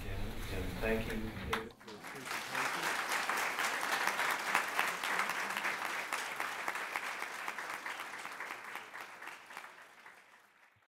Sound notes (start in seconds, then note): 1.5 applause